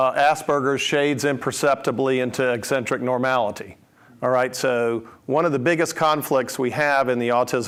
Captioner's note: none